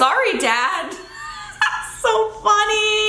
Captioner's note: laughing